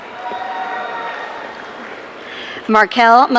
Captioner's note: audience cheering